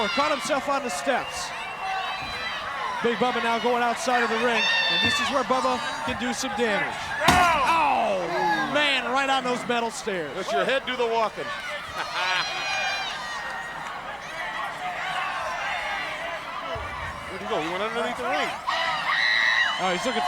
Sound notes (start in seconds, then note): 11.9 laughs; 13.3 crowd chattering; 19.1 fan screams